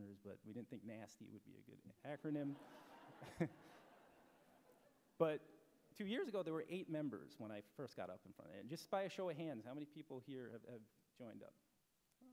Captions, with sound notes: but we didn't think nasty would be a good acronym. [laughter] But two years ago there were eight members when I first got up in front. Just by a show of hands, how many people here have joined up?